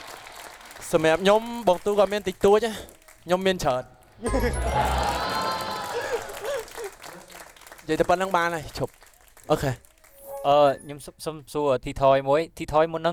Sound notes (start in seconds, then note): 4.2 cheering; 9.3 laughing